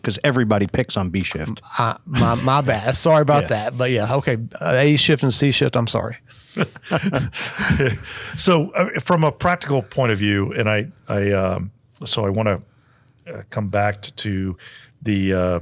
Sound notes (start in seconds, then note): 6.6 everybody laughs